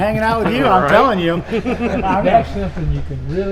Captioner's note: Richard laughing